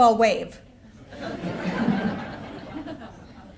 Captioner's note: laughter